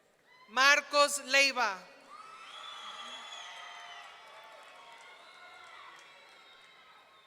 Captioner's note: audience cheering